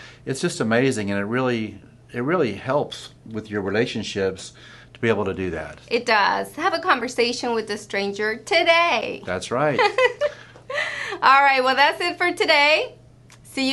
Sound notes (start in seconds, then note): 9.7 laughter